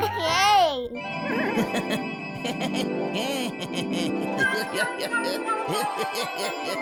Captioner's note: bright chiming music; laughs; Mooga and creature laugh